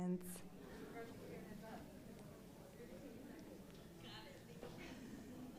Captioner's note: crowd softly conversing